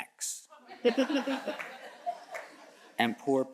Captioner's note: audience chuckles